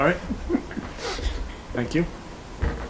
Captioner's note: board member laughs